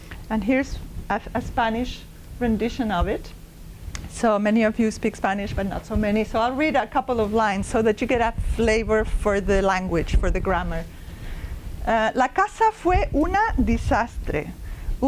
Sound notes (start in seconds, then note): 11.9 speaking spanish